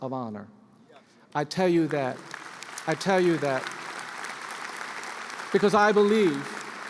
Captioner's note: applause; applause continues